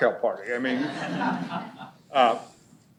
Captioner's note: laughter